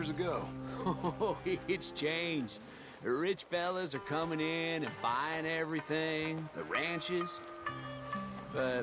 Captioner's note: laughs